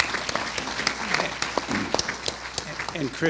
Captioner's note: applause